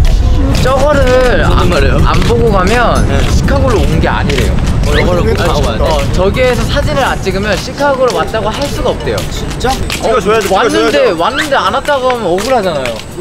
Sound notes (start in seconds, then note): 4.3 commotion